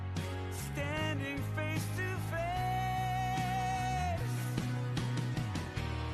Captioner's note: none